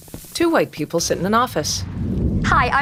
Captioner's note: faint explosion